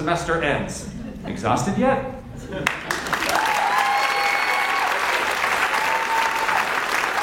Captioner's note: audience cheers and applauds